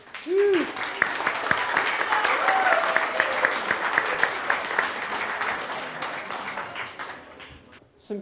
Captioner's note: audience applause